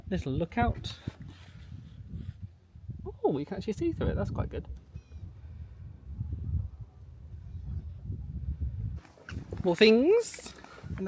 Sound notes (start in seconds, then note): 5.1 wind whipping